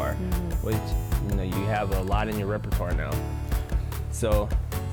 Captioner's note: none